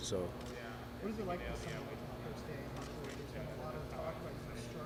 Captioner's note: faintly speaking